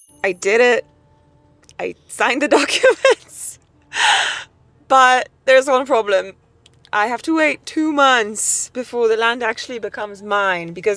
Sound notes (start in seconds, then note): 2.6 chuckles